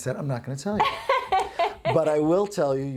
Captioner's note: laughs